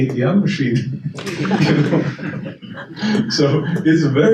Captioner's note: attendees chuckle